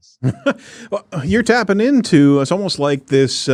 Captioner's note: laughs